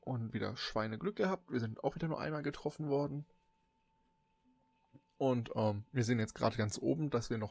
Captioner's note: ehm